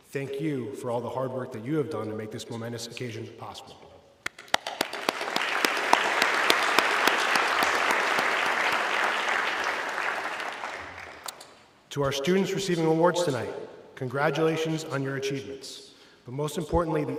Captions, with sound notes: Thank you for all the hard work that you have done to make this momentous occasion possible. (everybody clapping) To our students receiving awards tonight, congratulations on your achievements, but most importantly,